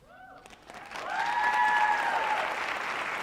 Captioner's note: applause